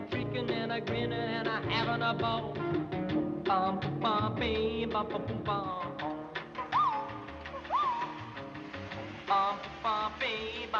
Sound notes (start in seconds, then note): 3.5 humming